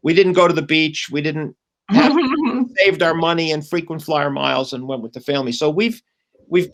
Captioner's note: laughter